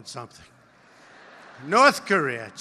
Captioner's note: laughter